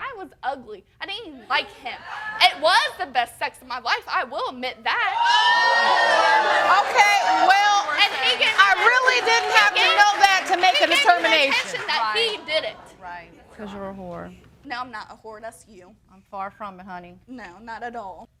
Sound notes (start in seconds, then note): 5.5 all exclaiming